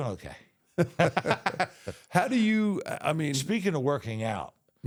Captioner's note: both laughing